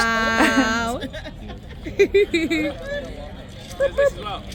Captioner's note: laughter